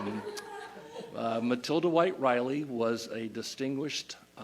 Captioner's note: laughter